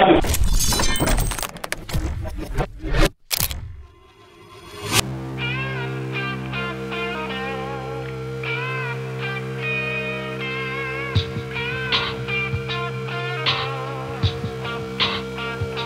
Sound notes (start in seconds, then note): 1.2 electronic tones; 5.0 classic rock tones